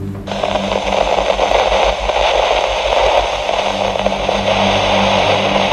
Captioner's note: static background noise